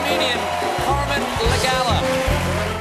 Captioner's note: cheers and applause